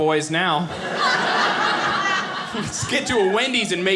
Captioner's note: audience laughing